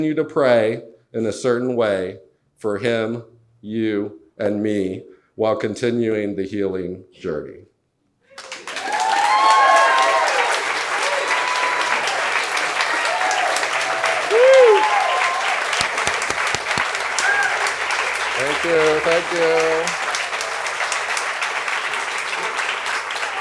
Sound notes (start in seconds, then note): 8.8 audience cheers; 8.8 audience claps; 21.1 audience clapping